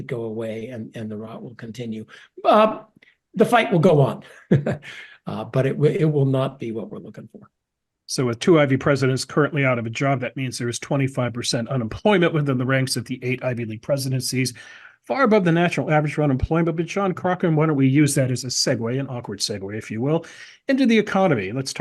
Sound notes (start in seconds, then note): 4.2 laugh